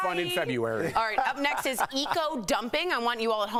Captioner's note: laughter